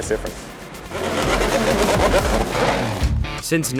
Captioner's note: engines revving